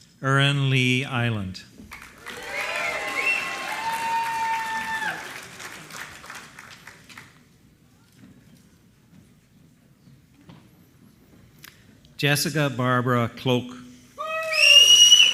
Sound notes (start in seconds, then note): 3.6 applause